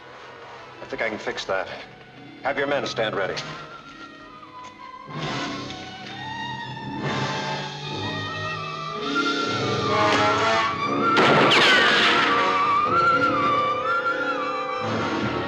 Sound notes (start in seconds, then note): 4.7 suspenseful music; 11.1 bullet ricochets; 11.1 gun fires; 12.4 suspenseful music